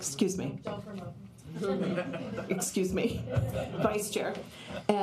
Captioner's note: laughter